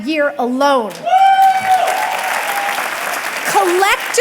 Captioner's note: audience clapping and cheering